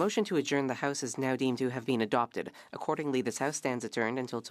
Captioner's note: speaking French